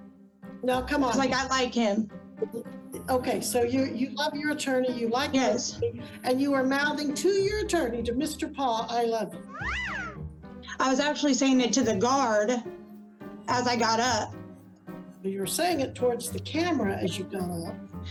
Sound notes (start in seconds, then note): 9.5 playful whistle